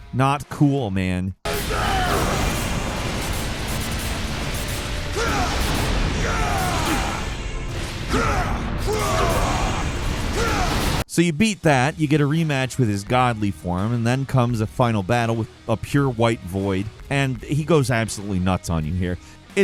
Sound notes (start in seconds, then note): 1.4 dramatic music; 1.5 Asura grunting